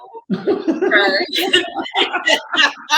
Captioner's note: laughing